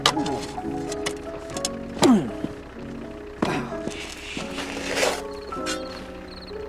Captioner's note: shovel scraping; Ulysses grunting